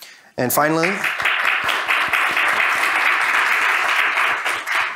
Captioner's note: audience applauding